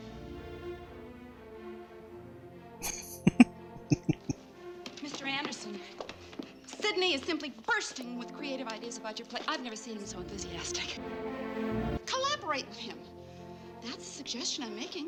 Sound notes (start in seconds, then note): 3.7 chuckling